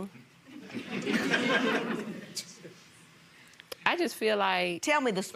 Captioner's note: audience laughing